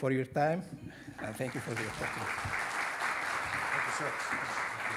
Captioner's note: audience applauding